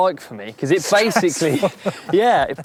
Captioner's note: laughing